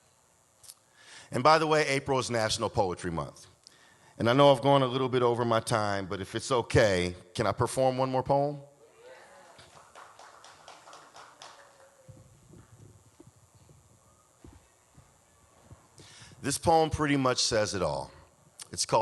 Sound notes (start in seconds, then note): 11.0 audience claps